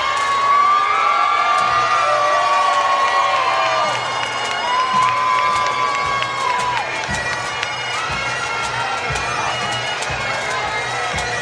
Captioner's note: cheers and Applause